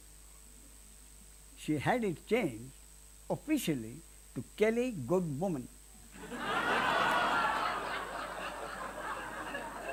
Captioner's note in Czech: smích